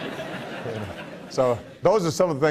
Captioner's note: laughs